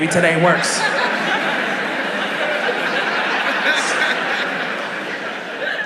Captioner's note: audience laughing